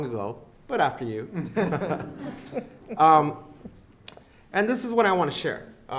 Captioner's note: audience laughs